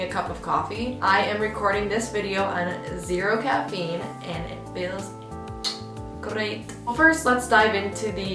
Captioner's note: mwah